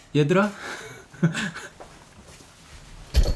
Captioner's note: chuckle